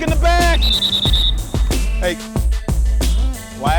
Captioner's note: whistle blowing